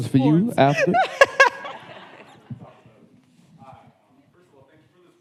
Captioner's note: audience laughing